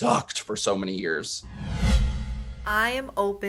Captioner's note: air whooshing